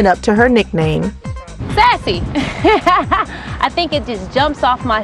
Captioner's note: laughs